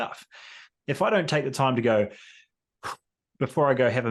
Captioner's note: exhales